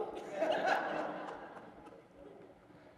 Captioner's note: laughter